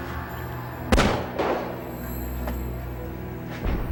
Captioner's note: gun shooting